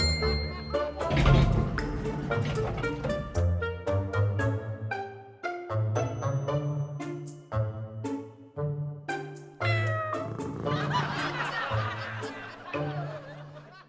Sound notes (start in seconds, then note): 0.0 bell chimes; 9.6 cat meows; 10.6 people laughing